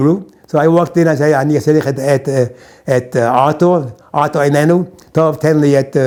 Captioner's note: in Hebrew